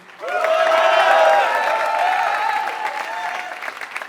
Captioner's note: applause